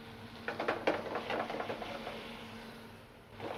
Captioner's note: sizzling